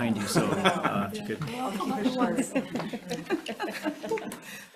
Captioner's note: all chuckle